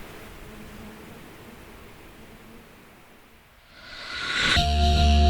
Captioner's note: everything fades out